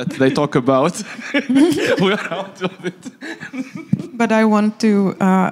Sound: laughing

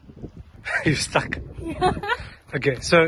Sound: laughs

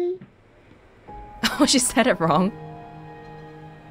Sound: chuckles

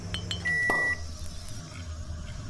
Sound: sound of a microwave and a beer opening

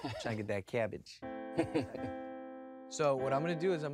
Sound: chuckles

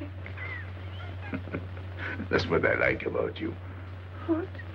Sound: laughing

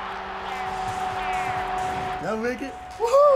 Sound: crowd cheers

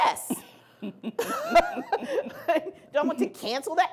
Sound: laughing

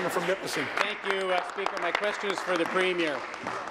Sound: applause

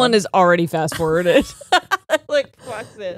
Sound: both laughing

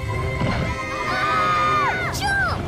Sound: screaming

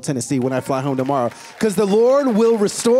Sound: applause

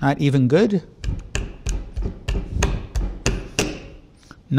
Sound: banging

